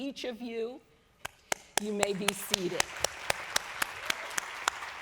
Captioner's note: applause